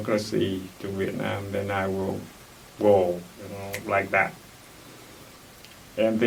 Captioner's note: snaps fingers